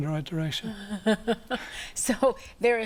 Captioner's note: laughs